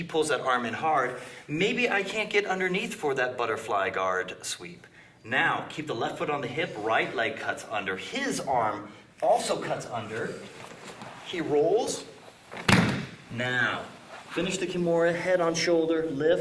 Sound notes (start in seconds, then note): 12.6 loud thumping